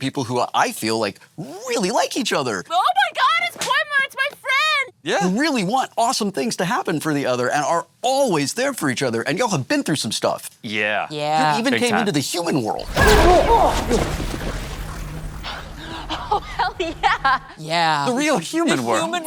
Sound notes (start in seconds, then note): 13.5 grunting